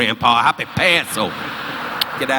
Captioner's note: audience laughing